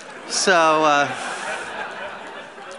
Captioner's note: laughter